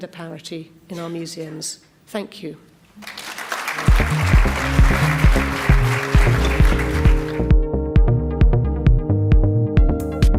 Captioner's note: applauds